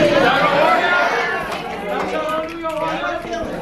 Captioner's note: cheering